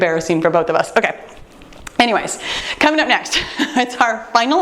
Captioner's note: laughs